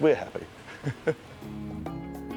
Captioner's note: laughs